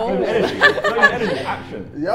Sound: laughs

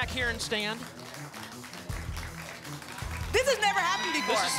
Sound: applause

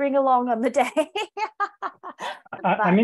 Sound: laughs

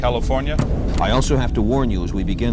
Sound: television static hissing

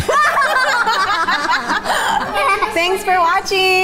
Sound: laughs

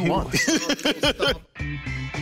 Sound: laughing; upbeat music

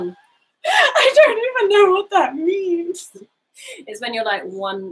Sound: laughing

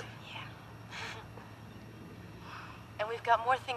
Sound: giggling

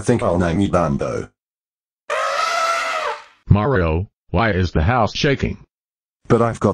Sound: elephant trumpeting

